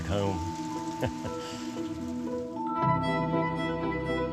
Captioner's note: laughs quickly